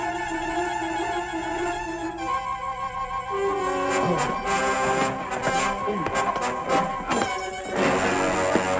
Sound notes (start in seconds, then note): 3.9 grunting